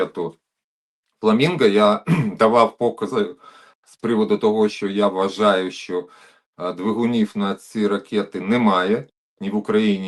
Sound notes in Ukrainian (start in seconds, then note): 2.0 прочищення горла